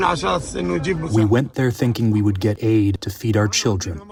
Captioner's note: through translator